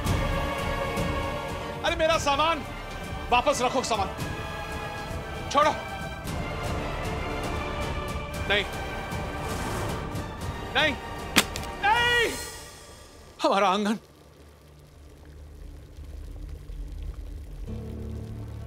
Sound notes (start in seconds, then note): 15.5 tea boiling